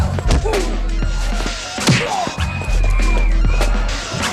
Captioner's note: blows thudding